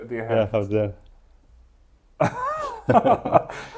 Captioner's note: laughs